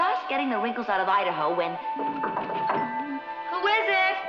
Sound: knocking

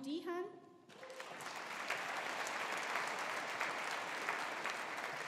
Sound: audience applauding

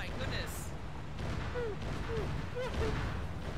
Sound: sobbing

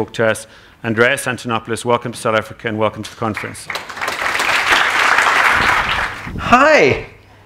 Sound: applause

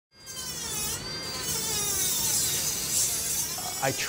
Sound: sawing

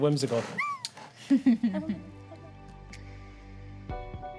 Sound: chuckling

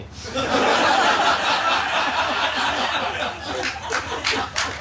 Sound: laughter; applause

